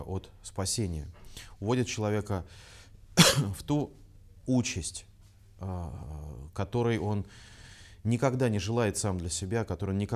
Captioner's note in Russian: кашляет